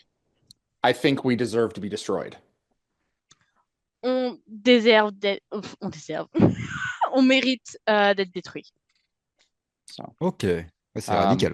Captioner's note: translating from French